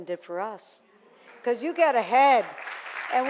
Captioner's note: audience applauding